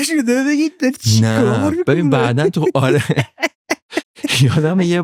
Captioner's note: laughs